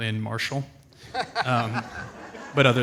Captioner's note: audience laughs